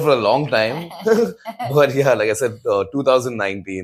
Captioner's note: laughs